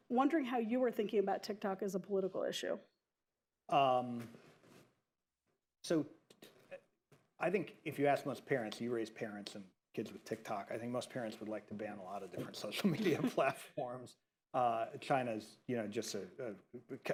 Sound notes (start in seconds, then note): 12.4 laughter